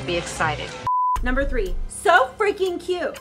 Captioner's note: beep